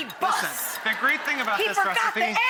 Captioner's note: audience laughs